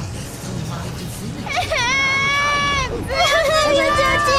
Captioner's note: crying